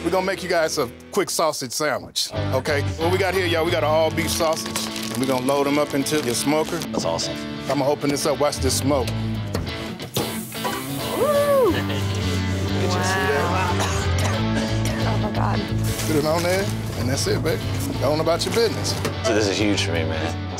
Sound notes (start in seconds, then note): 11.3 workers chuckle and cough